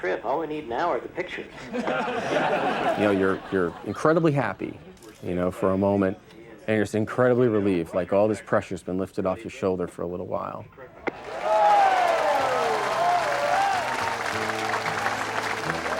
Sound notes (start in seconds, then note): 1.6 crowd laughing; 11.0 crowd cheering